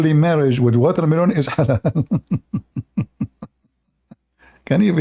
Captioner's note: Ketawa